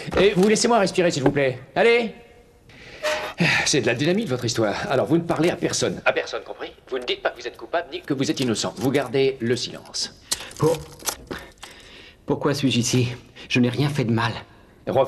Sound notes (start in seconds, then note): 10.2 handcuffs rattle